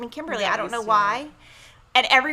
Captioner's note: speaks faintly